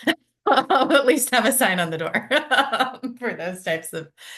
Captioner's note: laughs